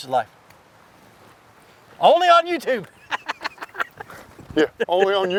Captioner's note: laughing